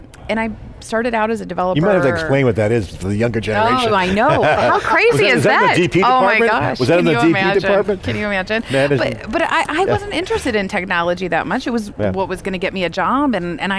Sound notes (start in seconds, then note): 3.7 laughing